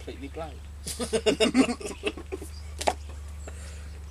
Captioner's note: they laugh